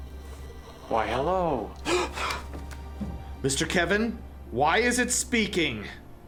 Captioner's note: gasps